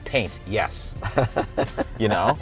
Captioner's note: laughing